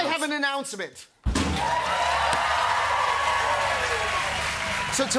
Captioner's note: drumroll; cheers and applause